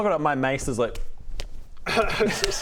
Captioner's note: slaps